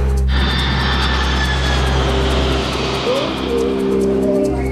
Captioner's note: plane engine running